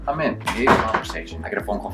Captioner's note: banging